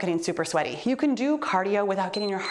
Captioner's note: timer beeps